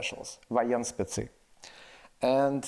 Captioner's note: speaks in foreign language